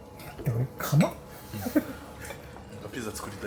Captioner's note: laughs